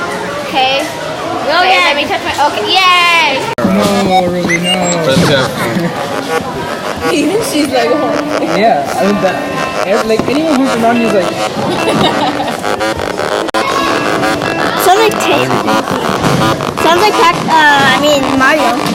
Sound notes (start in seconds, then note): 3.9 electronic music beeps; 7.3 chattering